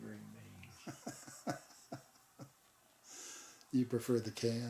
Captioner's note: laughing